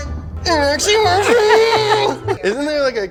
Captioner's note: grunts sarcastically